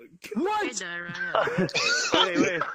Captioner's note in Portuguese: Risos